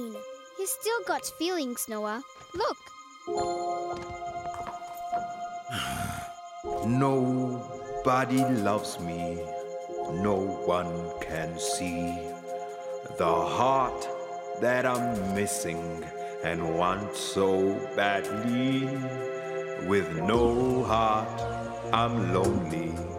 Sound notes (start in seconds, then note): 5.7 sighing